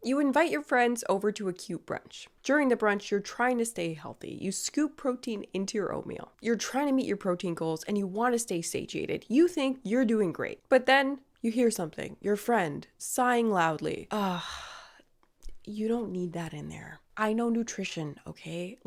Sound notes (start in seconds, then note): 14.1 sighing